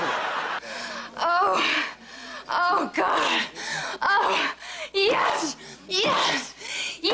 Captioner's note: laughter